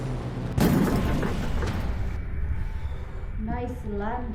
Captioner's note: ship rattles